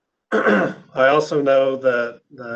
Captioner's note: clears throat